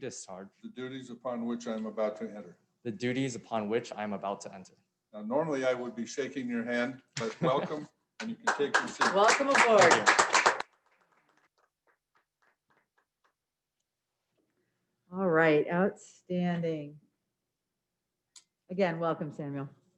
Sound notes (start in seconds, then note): 8.2 clapping; 11.9 muffled clapping continues